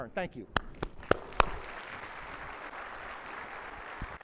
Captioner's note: audience applauding